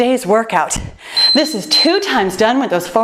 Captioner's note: timer beeps